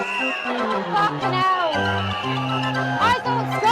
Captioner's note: crowd Chants "You go home!"